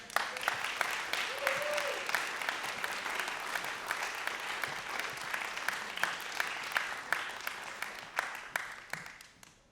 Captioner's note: applause